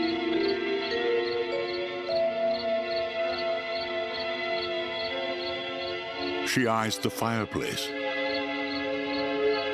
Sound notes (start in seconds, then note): 0.0 crickets chirping